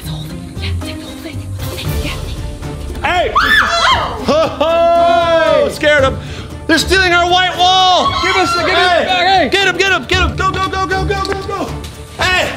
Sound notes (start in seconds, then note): 3.2 screaming